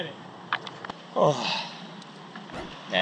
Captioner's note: sighs